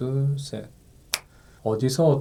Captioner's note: snap!